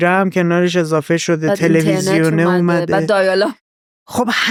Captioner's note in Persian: خنده